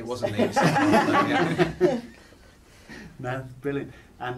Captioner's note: laughs